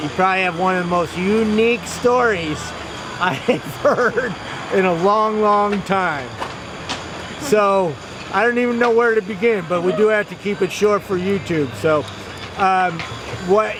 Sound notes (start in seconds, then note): 3.2 chuckles